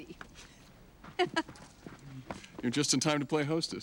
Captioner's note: laughs